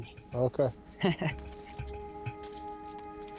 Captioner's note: chuckles